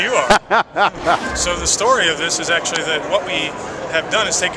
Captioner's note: laughter